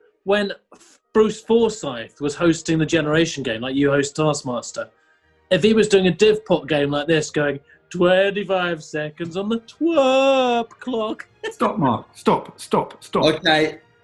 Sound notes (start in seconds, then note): 10.7 giggling